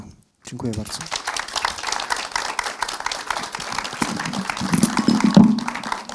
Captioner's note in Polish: oklaski